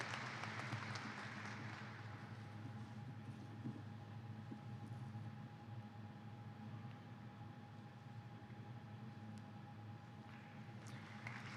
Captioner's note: applause